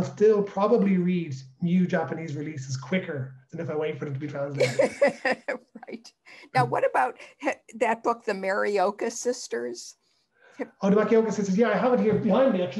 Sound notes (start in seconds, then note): 4.5 laughter